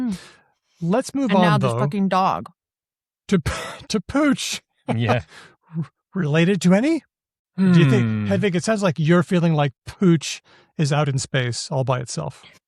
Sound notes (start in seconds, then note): 4.9 laughs